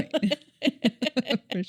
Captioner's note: laughs